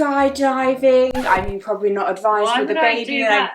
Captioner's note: record scratch